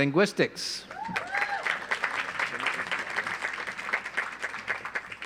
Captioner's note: audience applauds